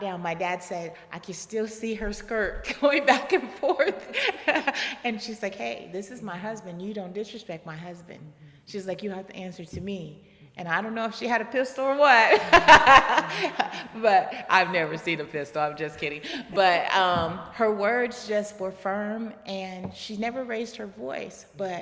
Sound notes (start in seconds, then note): 12.4 laughing